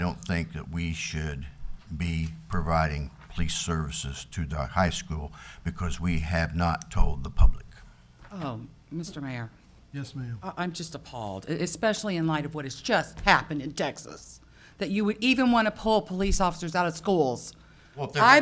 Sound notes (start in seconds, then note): none